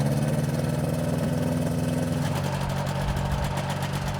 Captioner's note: engine rumbling